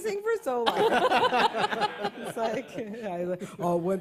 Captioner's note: laughter